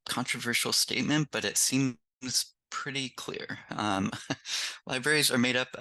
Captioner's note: chuckles